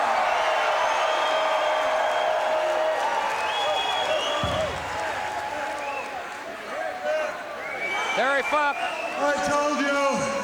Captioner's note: applause